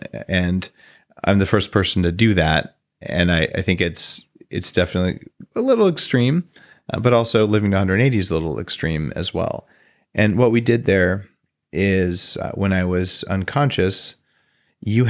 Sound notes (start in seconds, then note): none